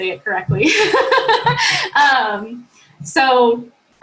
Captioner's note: laughter